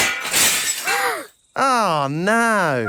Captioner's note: shatters